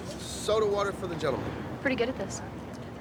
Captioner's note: none